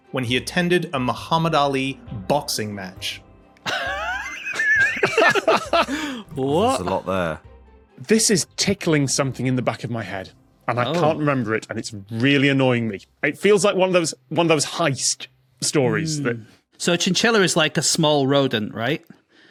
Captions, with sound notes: when he attended a Muhammad Ali boxing match? (wheezes) (laughs) What? There's a lot there. This is tickling something in the back of my head, and I can't remember it, and it's really annoying me. It feels like one of those heist stories that... So chinchilla is like a small rodent, right?